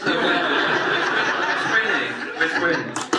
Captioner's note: audience laughs